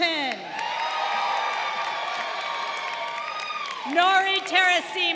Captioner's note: crowd cheering